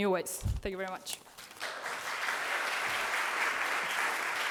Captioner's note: audience clapping